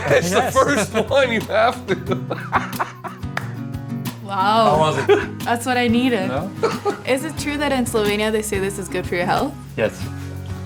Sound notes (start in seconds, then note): 3.6 laughs